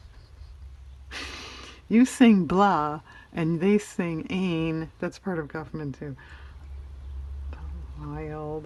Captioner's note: laughs